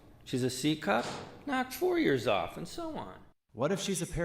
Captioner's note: none